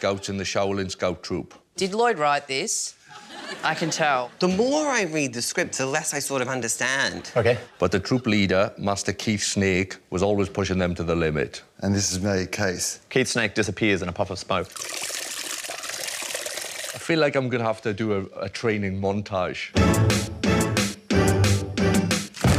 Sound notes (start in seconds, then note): 14.6 liquid spurts; 19.7 plays convincing action music